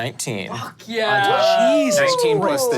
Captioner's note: cheering